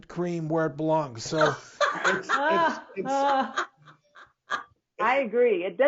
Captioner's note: women laughing